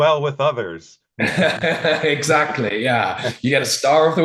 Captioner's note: chuckling